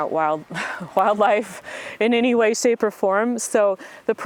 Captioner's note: laughs